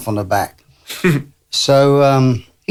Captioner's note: laughs